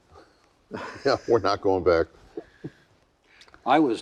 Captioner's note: laughing